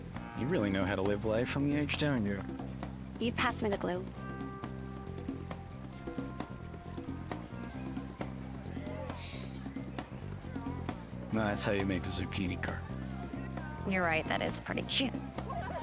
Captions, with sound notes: - You really know how to live life on the edge, don't you? (scoffs) - Will you pass me the glue? (sighs) - Now that's how you make a zucchini kart. - You're right. That is pretty cute.